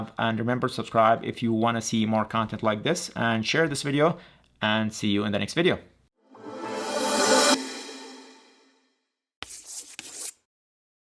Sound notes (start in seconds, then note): 6.2 ringing; 9.4 chalk scratching